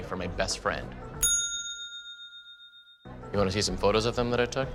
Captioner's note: bell dings